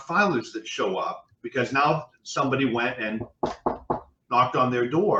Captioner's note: knocking